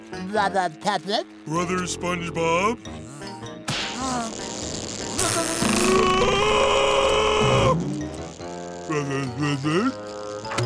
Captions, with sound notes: - Brother Patrick? - Brother SpongeBob. [screaming] Brother Squidward?